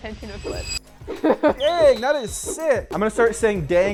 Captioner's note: laughs